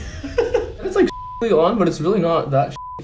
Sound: beep

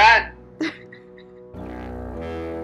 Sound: chuckles; upbeat music

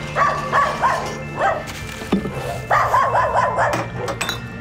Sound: dog barks

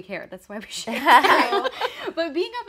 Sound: laughing

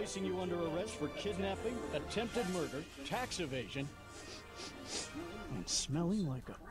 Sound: sniffing

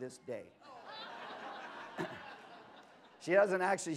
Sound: laughter

